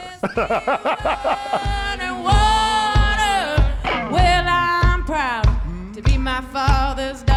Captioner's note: laughs